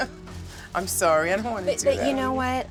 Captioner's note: laughs